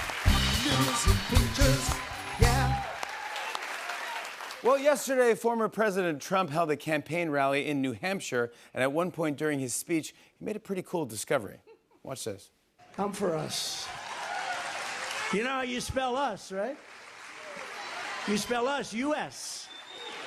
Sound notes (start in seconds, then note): 12.9 cheers and applause